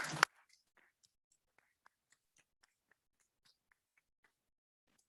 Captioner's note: clapping